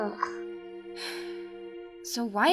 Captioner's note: groan; sigh